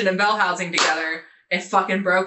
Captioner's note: clapping